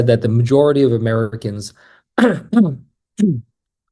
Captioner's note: coughs